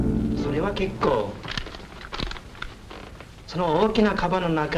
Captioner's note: speaking Japanese